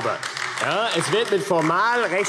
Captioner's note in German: Beifall AfD